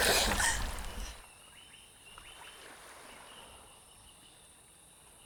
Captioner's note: birds chirping